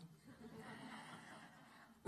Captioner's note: laughter